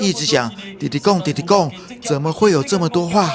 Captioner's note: Taiwanese